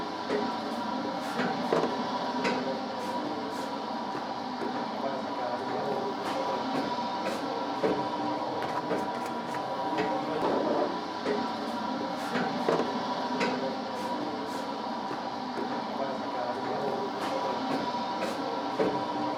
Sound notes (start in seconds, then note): 12.1 machine running